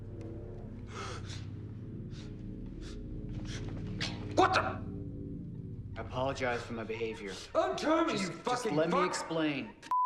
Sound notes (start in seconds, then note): 0.8 gasps